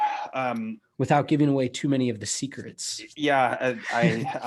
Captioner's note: laughs